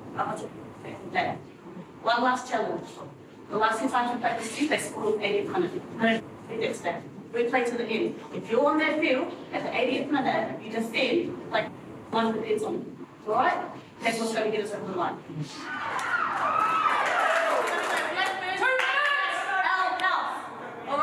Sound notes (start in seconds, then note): 15.6 team cheering